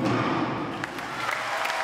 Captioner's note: crowd cheering